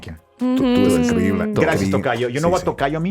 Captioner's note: speaking Spanish; Jaime speaking Spanish